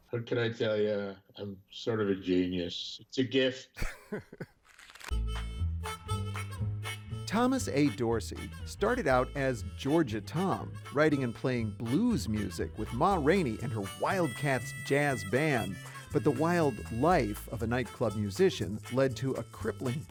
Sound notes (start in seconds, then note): 3.7 chuckles; 4.6 paper rustles; 4.8 mellow blues music